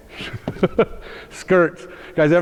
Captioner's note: iaughs